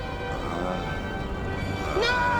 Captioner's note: groaning